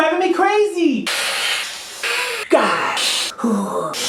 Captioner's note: hissing